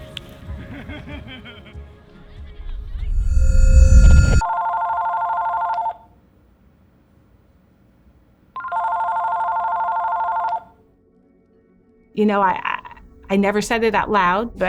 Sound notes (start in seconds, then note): 0.6 laughing; 4.0 telephone ringing